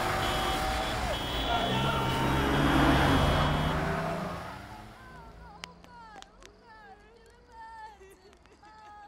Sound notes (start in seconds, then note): 2.5 men hollering